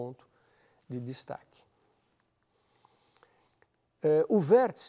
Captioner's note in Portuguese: pausa sonora